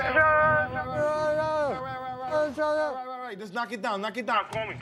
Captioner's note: both shouting gibberish